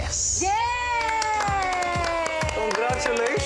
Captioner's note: judges cheering